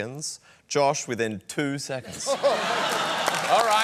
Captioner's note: laughter